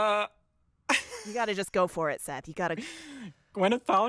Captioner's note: laughter